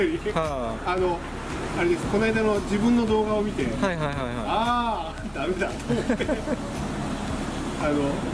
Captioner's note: laughs